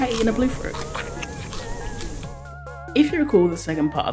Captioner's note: chewing